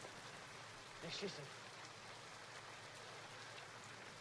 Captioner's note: speaking in german